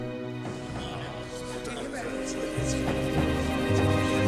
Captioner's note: men chattering